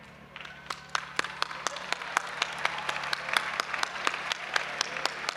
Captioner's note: audience applauding and cheering